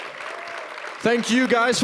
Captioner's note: applause